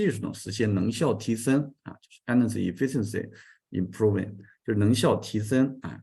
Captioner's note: continues to speak in Chinese